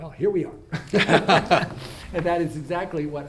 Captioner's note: all laugh